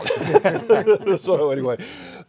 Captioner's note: all laugh